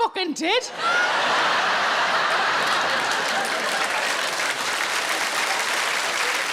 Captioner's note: audience laughing and applauding